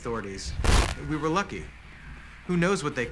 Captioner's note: static